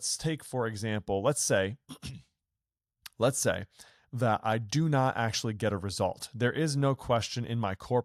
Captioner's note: clears throat